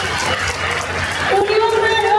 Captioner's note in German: Jubel